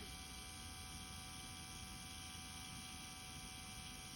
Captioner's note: machine whirring